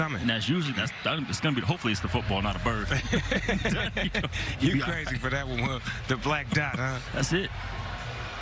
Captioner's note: laughter